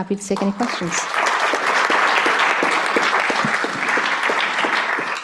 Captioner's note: applause